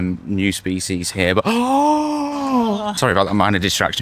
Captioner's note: gasp